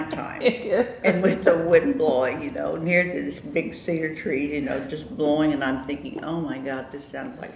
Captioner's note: laughter